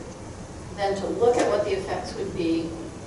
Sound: none

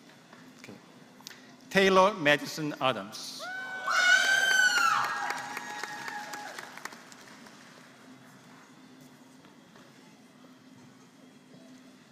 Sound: applause

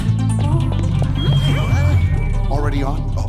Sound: audio feedback

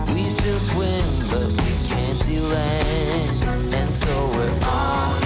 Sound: sewing machine revving

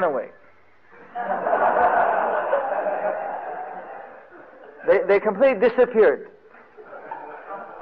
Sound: devotees laughing

